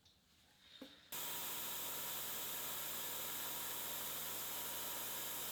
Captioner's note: milling machine whirring